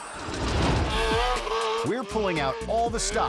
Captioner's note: audience laughing; spectators laughing; air whoosh; motorcycles buzzing